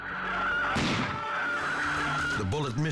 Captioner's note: gun firing